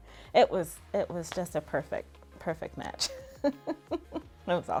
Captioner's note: laughs